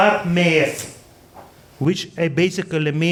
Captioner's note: speaking foreign language